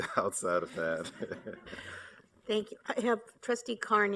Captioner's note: laughter